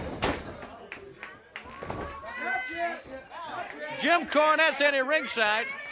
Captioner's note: crowd chatter